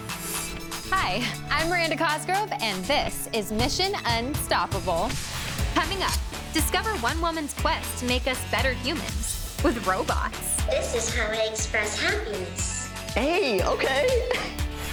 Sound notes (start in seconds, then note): 10.8 robot talking